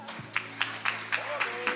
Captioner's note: attendees applauding